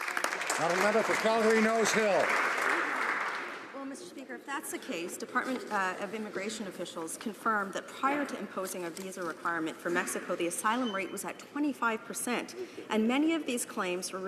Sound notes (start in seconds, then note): 3.1 some Applause